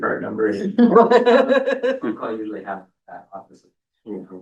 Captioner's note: laughter